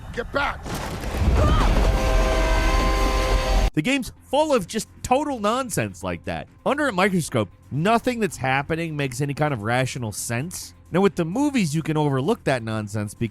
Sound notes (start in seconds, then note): 1.3 screams; 1.8 train horn blares